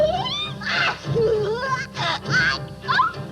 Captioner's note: giggling